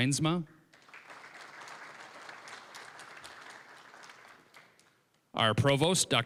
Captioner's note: applause